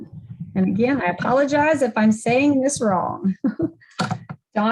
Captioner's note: giggles